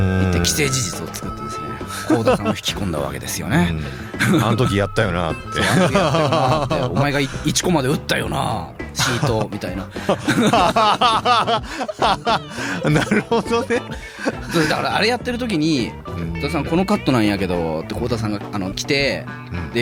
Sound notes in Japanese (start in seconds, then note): 5.3 笑い; 11.9 笑い